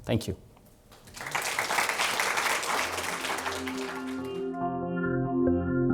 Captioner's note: audience applauding; ethereal music